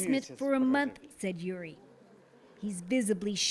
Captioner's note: speaking alternate language